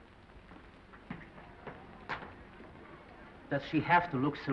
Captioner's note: footsteps approaching